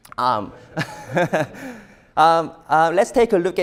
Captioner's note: laughs